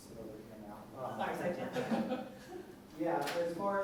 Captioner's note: laughter